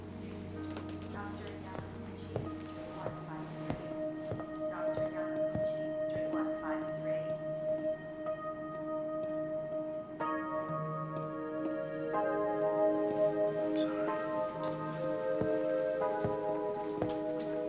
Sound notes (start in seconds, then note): 3.9 announcement on p.a; 15.6 footsteps departing